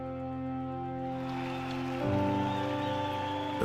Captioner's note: cheers and applause